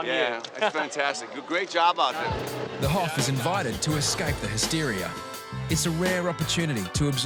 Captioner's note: chanting